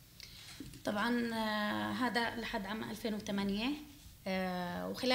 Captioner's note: speaking arabic